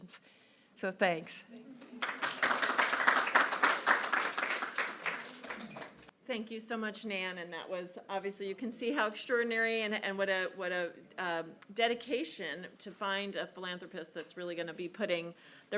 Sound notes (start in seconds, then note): 1.8 audience clapping